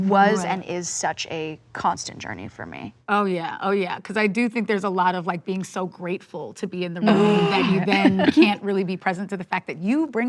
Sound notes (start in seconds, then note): 7.1 groans